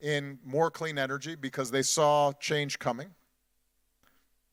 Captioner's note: none